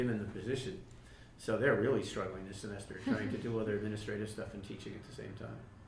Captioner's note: laughter